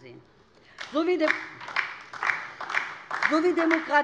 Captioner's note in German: Beifall